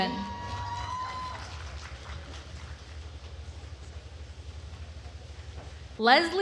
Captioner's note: attendees cheering and applauding